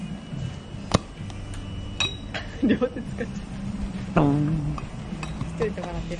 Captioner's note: laughs